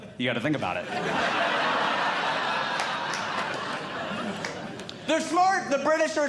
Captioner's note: audience Laughing